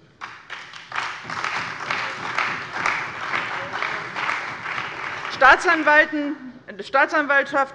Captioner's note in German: Beifall bei der CDU und dem BÜNDNIS 90/DIE GRÜNEN